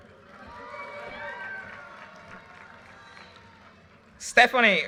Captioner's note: audience cheers and applause